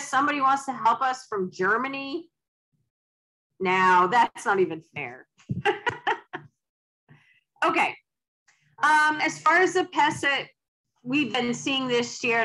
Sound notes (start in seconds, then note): 5.6 laughs